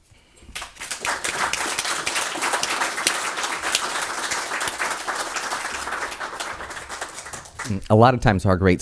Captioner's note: audience applause